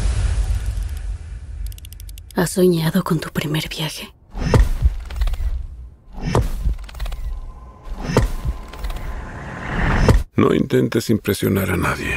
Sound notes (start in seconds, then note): 4.4 rhythmic thunks, clicking